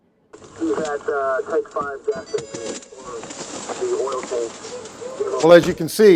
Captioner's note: police radio chattering